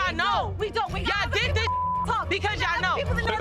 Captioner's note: beeps